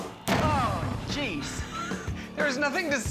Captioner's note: explosion